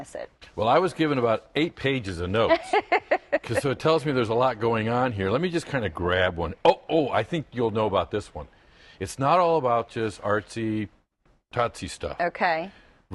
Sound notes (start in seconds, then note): 2.4 laughter